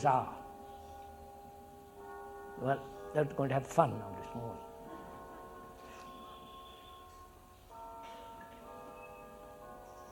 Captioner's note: sound of bells